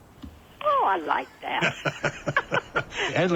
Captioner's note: both laugh